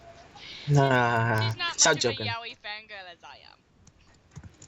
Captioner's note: laugh